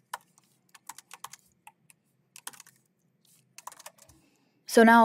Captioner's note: keyboard clacking continues